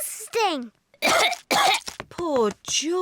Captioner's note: coughs